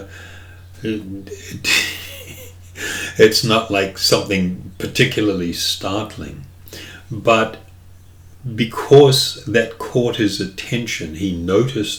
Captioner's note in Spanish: Risas